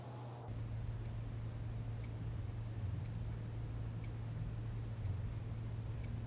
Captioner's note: low-pitched hum, ticking of clock